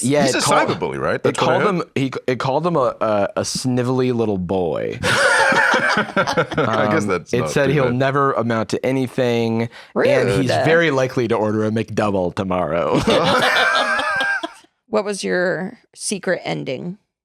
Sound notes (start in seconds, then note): 5.0 all laughing; 12.9 laugh